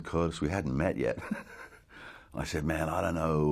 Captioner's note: chuckles